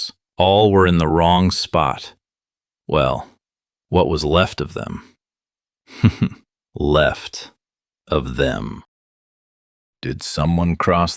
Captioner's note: dark chuckle